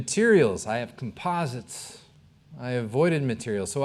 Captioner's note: none